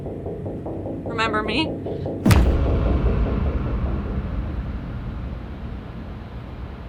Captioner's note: suspenseful music continues; fist pounds